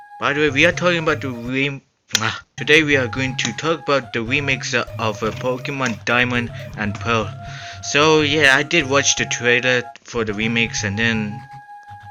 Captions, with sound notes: By the way we are talking about the reem... Ugh! Today we are going to talk about the remakes of Pokémon Diamond and Pearl. *Inhales* So yeah I did watched the trailer for the remakes and then...